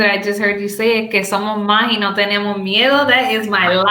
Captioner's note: speaks Spanish